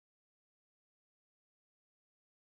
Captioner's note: none